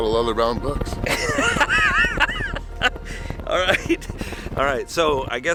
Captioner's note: laughs